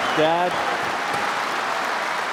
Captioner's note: cheers and applause